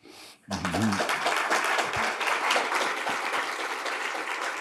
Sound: crowd clapping

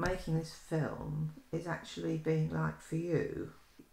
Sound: none

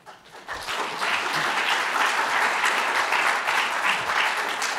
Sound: applause

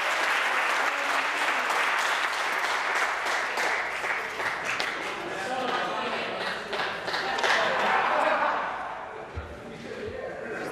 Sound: applause

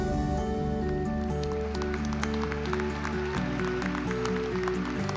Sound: applause

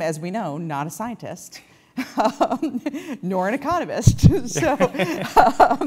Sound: laugh

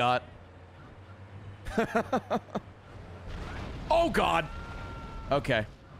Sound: laughs

